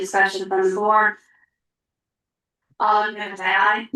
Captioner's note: pause